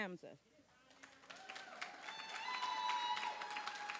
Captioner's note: applause